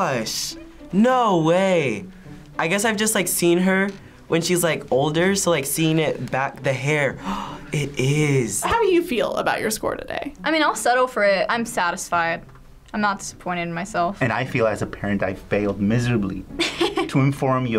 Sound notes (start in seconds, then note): 7.2 gasping